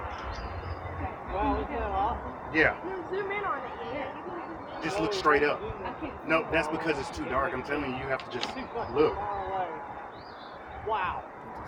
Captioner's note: crowd chatter